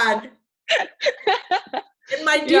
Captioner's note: laughing